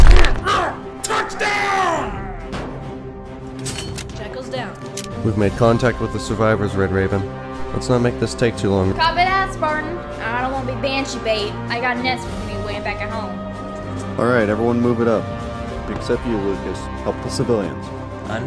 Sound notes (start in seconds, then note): 2.9 bonk